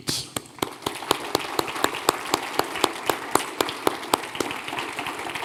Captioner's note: audience applauding